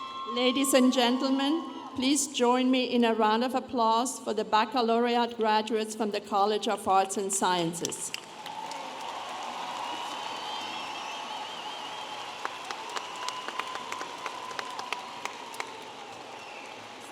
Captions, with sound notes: Ladies and gentlemen, please join me in a round of applause for the baccalaureate graduates from the College of Arts and Sciences. (audience applauding and cheering)